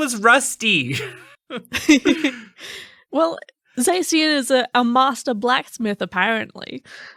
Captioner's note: laughing